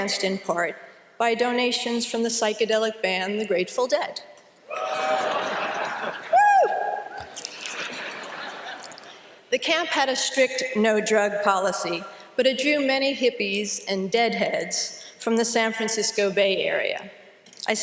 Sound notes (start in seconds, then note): 4.7 cheering and laughter